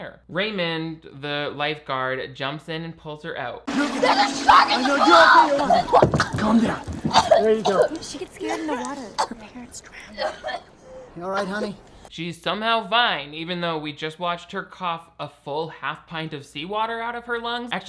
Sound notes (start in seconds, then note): 5.9 coughing; 7.6 coughing; 10.2 coughing